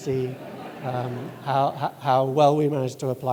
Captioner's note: audience laughing